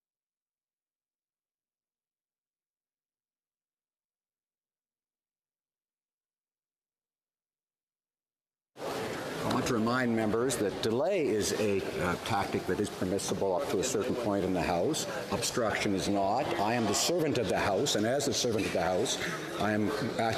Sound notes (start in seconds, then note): 4.5 silence